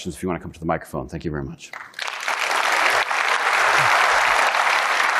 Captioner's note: audience applauding